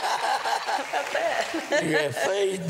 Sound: laughter

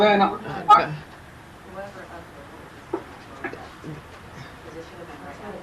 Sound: people chattering faintly

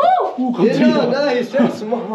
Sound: shout out in surprise

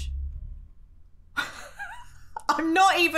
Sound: laughing

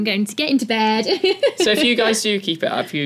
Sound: laugh

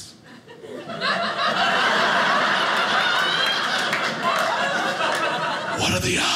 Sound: audience laughing

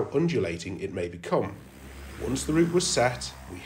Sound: drone revs up

